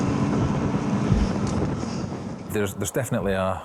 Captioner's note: lifeboat engine whirring continues